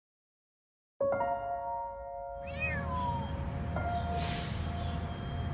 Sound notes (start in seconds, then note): 2.4 cat meows